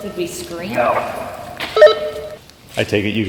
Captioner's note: on walkie-talkie